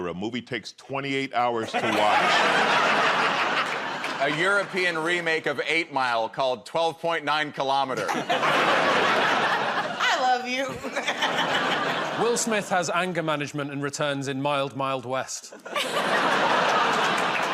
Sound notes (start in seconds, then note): 7.9 laughter